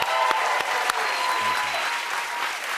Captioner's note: cheers and applause